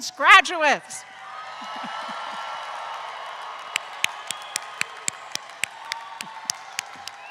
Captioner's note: everyone cheers; everyone claps